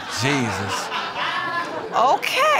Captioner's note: audience laughing